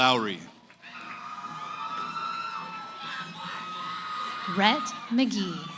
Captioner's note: cheering